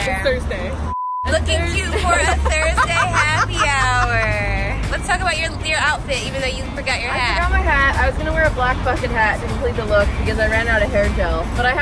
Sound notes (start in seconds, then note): 0.8 beep; 1.7 laughs